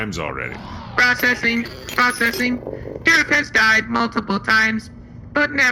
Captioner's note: beeping